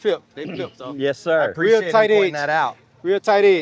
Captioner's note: pat